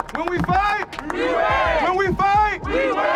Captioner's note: audience cheering and applauding; crowd